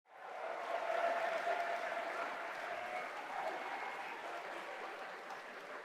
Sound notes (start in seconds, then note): 0.2 audience applauding